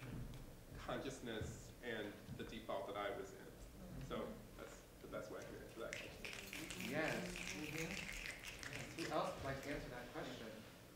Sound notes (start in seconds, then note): 5.8 snapping from audience